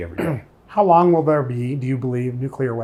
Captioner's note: clearing throat